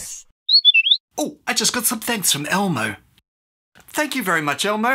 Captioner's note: whistle blows